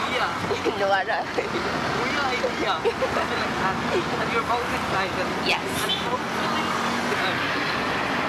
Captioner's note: giggle